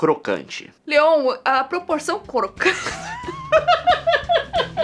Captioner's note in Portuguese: risos